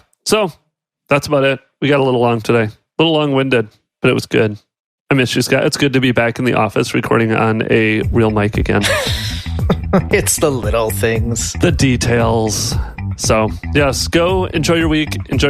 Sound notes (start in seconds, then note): 8.8 laughs